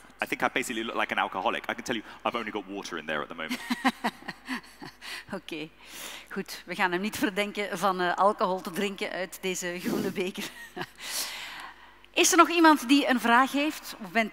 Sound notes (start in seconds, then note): 3.6 laughs; 6.2 speaking in Dutch; 9.7 chuckles; 10.8 laughs; 12.0 speaking in Dutch